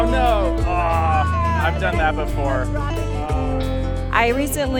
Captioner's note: groans